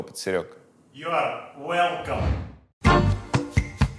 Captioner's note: in English